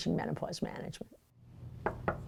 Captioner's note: knocks